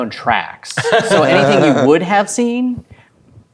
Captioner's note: laughing